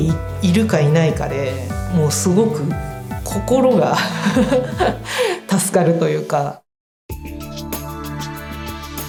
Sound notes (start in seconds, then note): 4.1 laughs